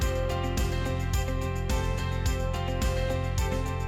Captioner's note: none